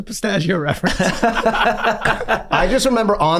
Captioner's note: gang laughing